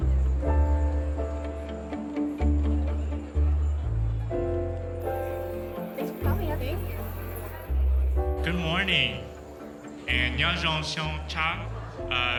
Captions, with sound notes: (rhythmic music continues) - Thanks for coming. - Thank you. - Good morning and (speaking in foreign language).